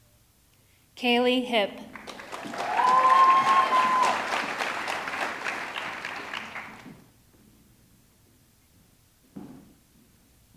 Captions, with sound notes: Kaylee Hipp, (audience clapping) (audience cheering)